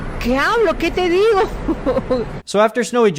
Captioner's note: speaking foreign language